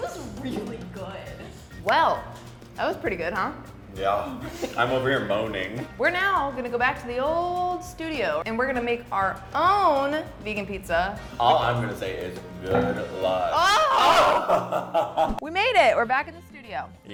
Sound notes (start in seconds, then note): 13.6 laughs